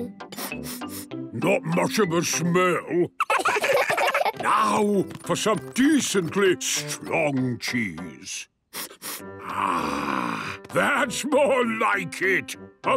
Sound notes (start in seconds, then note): 0.2 sniffing; 0.2 sniffs; 8.7 sniffs